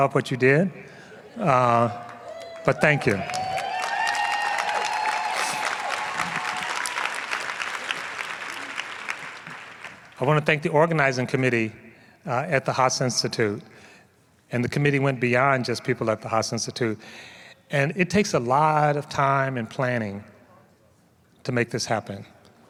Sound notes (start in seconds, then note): 3.6 applause